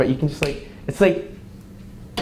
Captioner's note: fingers snap